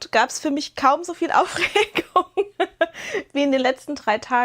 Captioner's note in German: gelächter